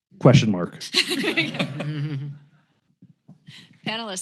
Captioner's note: laughter